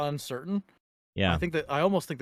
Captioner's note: laughing